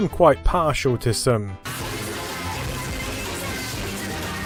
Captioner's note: severely distorted audio